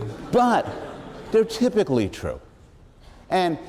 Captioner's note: laughter